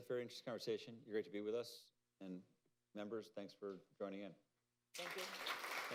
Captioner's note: applause